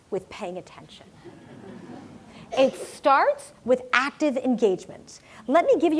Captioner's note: laugh